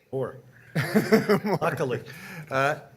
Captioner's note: chuckling